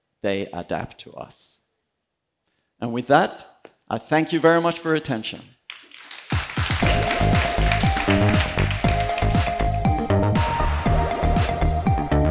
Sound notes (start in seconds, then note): 5.7 applause